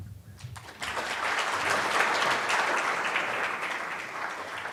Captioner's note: applauding